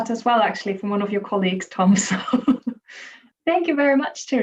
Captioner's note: chuckles